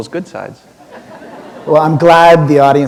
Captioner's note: laughter